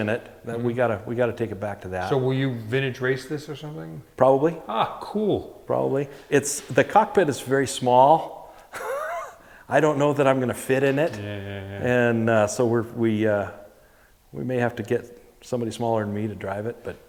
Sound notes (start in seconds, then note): 8.7 laughs